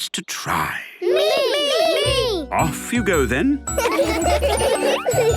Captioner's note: laughter